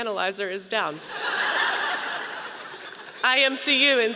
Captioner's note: audience laughing